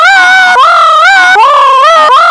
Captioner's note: mimics fnati jumpscare again